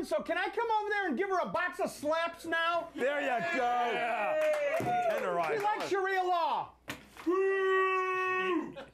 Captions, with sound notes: SO CAN I COME OVER THERE AND GIVE HER A BOX OF SLAPS NOW? [Scattered applause] - THERE YOU GO! TENDERIZER. - SHE LIKES SHARIA LAW. - BOOO!